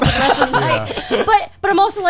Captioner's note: guys laughing